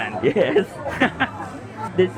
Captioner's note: laughs